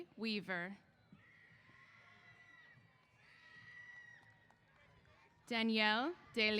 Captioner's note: cheers